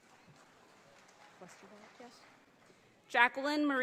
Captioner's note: audience applauding